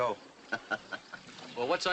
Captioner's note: hoppy chuckles